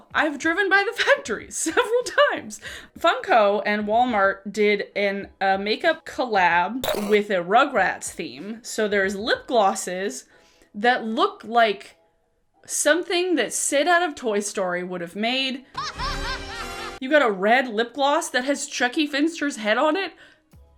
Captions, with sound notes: I've driven by the factory, several times, Funko and Walmart did an, a makeup collab with a "Rugrats" theme. So there's lip glosses that look like something that Sid out of "Toy Story" would have made. (manic laughter) You got a red lip gloss that has Chucky Finster's head on it.